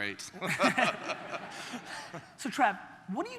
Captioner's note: audience laughter